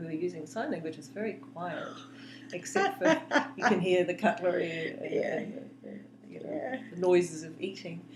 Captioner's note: laughs